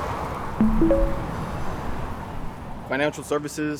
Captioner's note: chiming